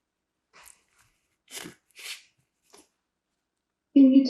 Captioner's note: wiping nose